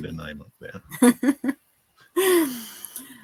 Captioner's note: laughing